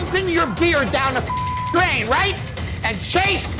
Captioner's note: beep